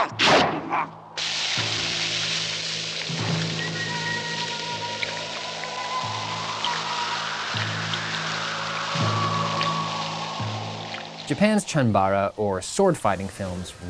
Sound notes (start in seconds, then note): 1.0 blood gushing; 4.1 heavy wind blowing